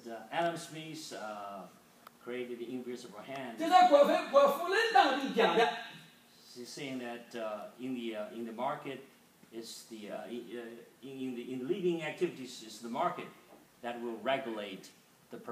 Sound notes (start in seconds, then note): 3.9 speaking foreign language